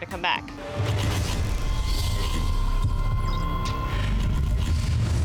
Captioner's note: heavy machinery whirs